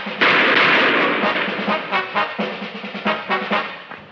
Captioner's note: gun shooting